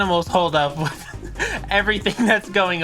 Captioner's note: laughing